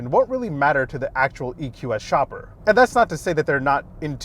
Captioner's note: none